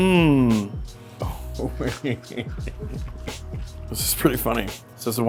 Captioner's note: laughs